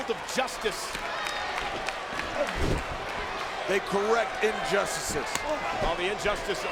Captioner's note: applause